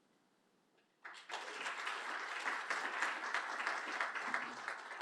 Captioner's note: applause